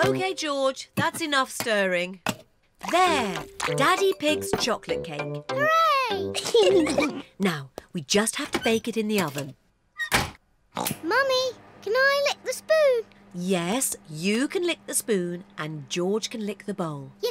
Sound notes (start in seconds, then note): 6.3 giggles; 10.5 oinks